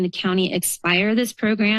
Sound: none

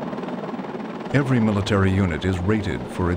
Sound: voiceover

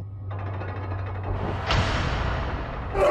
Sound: thudding; shouting

